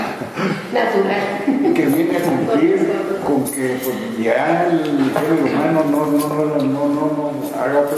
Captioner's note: laughter; laughter